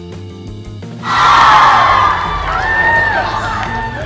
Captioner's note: cheering